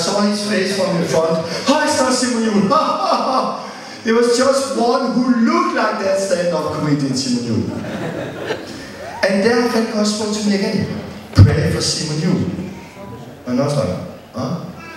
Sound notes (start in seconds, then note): 7.7 laughter